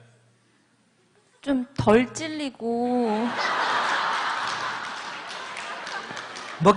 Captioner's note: audience Laughter